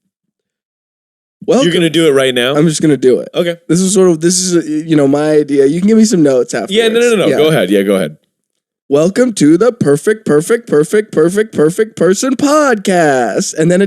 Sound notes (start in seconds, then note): 4.6 mumbles